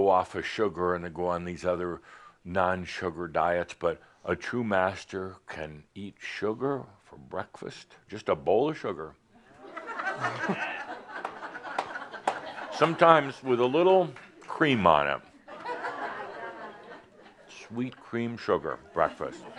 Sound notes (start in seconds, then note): 9.4 laughter; 15.8 more chuckles